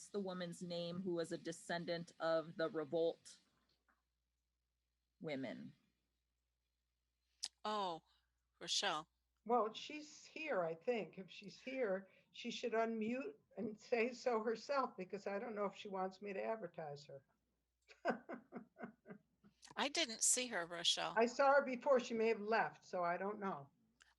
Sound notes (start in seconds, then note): 17.8 laughter